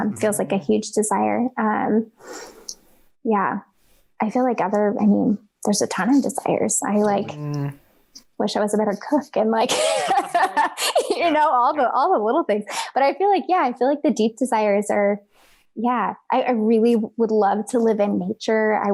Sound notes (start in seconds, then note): 9.7 laughs